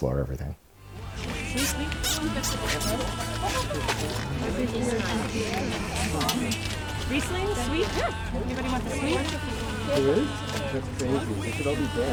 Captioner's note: chatter